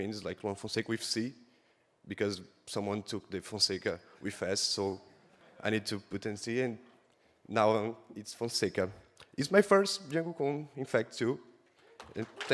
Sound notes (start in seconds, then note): 5.0 soft audience laugh